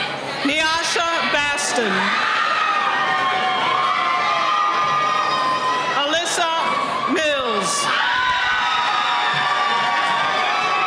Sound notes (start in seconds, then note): 2.4 cheering; 8.4 cheering